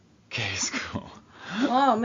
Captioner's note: laughs